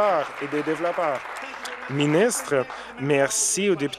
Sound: applause

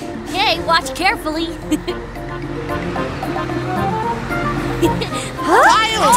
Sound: giggling

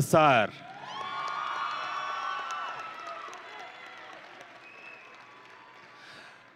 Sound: audience and graduates cheering

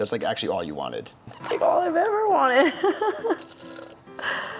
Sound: laughing

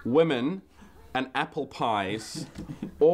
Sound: giggling

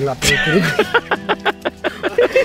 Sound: laughing

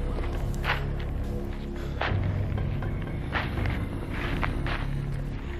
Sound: footsteps fade away

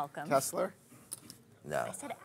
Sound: voiceover

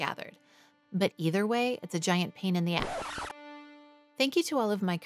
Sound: record screech

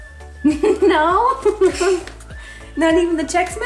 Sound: laughing

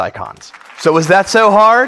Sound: audience applaud

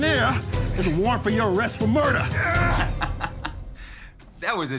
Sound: laughing

